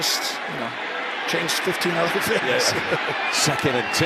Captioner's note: laughs